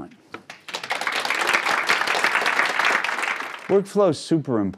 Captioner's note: crowd clapping